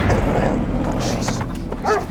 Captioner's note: dog growling